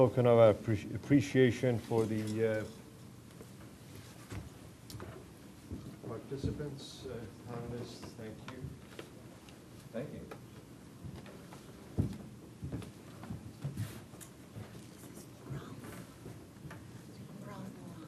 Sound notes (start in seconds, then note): 6.0 background conversations as handing out gifts